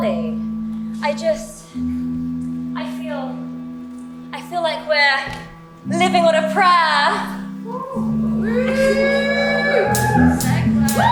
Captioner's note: audience cheers